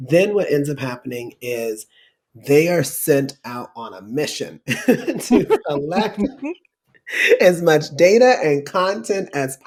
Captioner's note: laughter